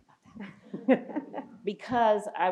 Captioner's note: people laughing